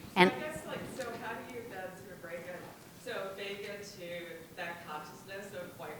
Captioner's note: woman speaks off microphone